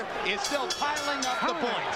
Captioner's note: bell rings